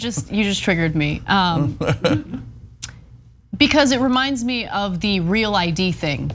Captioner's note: laugh